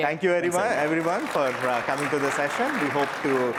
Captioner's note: applause